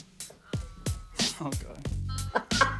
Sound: upbeat music; laughs

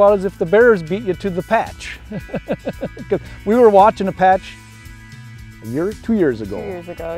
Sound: laughs

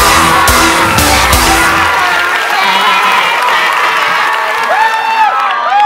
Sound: yelling

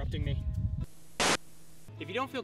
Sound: static

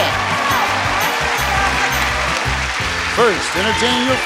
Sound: audience applauding

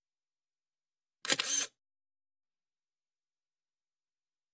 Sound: camera shutter

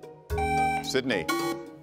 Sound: buzzer beeps

